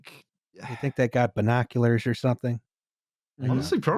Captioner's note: sighs gently